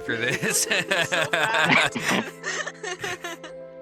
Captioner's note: laughing